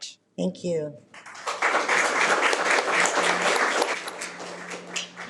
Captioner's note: audience clapping